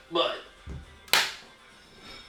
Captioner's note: blank Audio